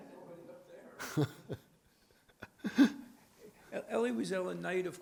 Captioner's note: speaks faintly; laughs